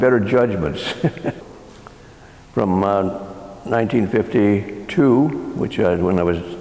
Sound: laugh

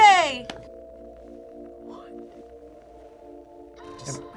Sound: whispers

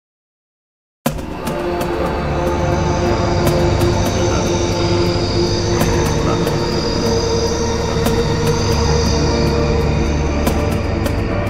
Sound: sound of tribal dark forest

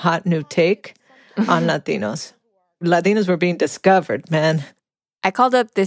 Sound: Longoria laughs

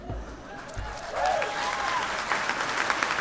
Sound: applause

